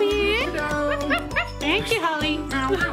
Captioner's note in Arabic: نباح